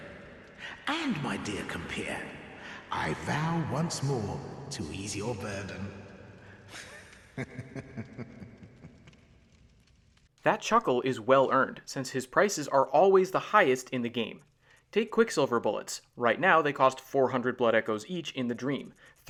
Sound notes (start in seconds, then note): 6.7 snickering